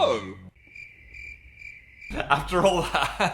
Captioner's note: crickets chirping